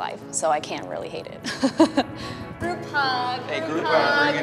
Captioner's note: laughs